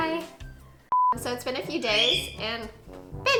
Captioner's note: chirp